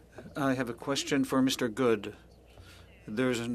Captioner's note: speaking French